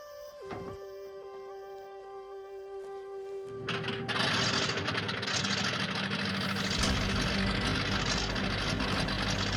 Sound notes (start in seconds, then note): 3.8 engine chugging